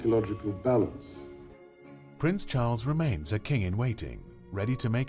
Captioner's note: voiceover